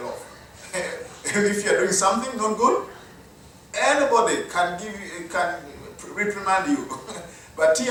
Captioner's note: chuckles; laugh